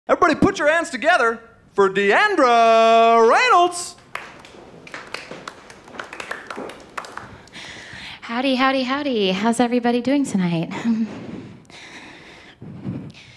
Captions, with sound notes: Everybody put your hands together for Deandra Reynolds! [A COUPLE OF CLAPS] Howdy, howdy, howdy. How's everybody doing tonight?